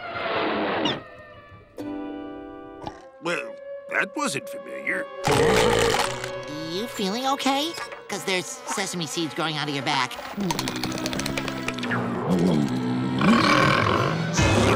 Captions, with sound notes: Well, that wasn't familiar. [belching] You feeling okay? 'Cause there's sesame seeds growing out of your back. [groaning]